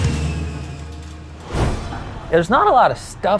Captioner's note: graphics whooshing